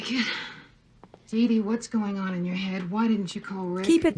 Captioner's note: on TV